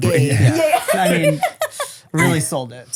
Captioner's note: laughs